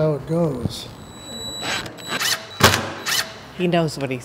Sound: electronic tool drills

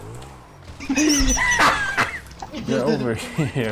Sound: both laughing even louder

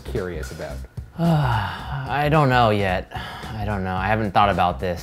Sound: sighs

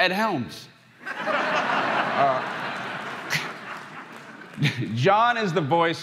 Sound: crowd laughing

